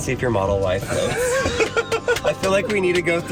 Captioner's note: laughing